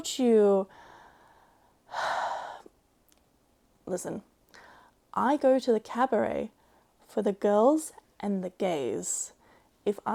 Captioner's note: sighs in Ace